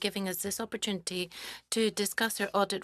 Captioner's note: speaking French